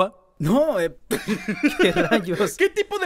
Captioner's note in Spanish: risas